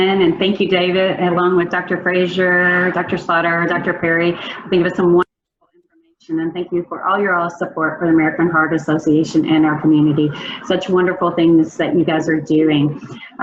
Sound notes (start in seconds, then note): 4.8 faintly speaking